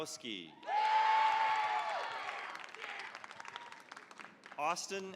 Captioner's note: cheering, applause